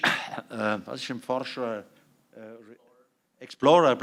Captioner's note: non-english speech